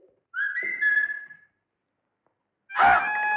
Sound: whistles

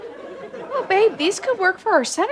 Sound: audience chuckles

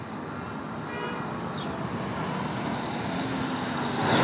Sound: car horn honks

